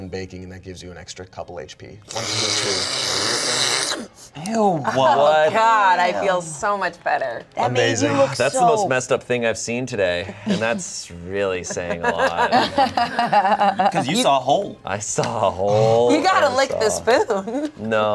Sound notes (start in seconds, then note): 2.0 slurps; 11.7 everyone laughs